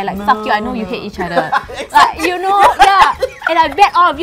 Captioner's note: explosive laughter